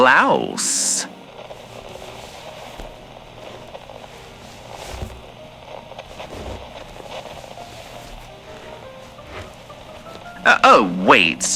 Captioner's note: corset cover sounds fx